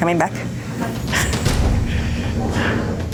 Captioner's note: chuckles nervously